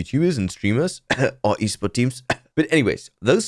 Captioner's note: cough